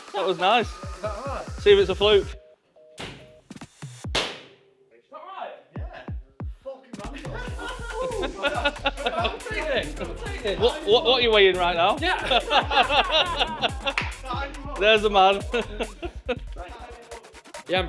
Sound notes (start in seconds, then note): 7.1 laughter; 12.0 laughter